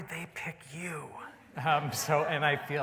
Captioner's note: laughter